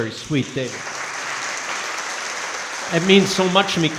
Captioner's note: crowd clapping